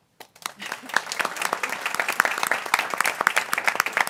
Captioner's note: people clapping